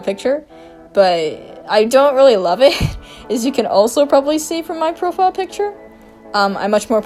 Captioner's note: laughs